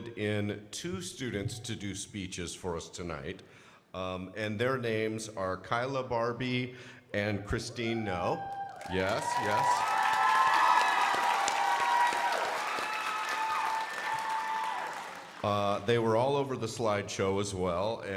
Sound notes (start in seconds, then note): 8.5 crowd applauding